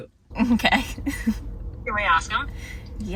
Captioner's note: chuckles